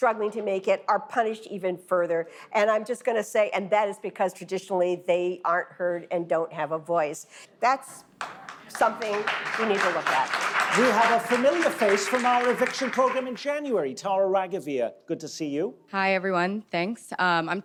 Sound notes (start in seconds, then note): 11.8 audience clapping